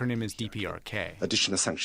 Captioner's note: through translator